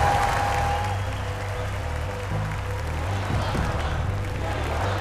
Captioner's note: crowd cheering and applauding; chanting